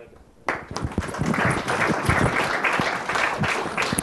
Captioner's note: applause